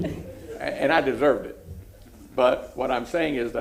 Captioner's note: laughter